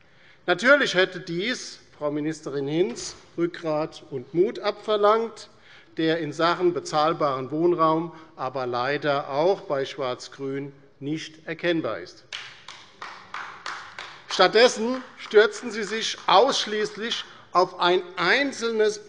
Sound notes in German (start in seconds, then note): 12.3 Beifall bei der LINKEN